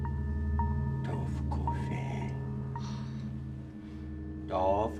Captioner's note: man speaking in unknown foreign language